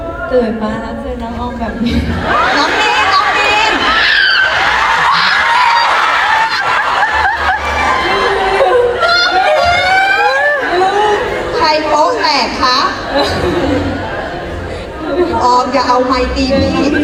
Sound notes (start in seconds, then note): 2.8 Orm Screming; 6.5 fans Screming